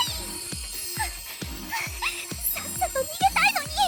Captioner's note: panting